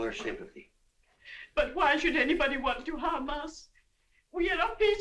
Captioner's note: sobbing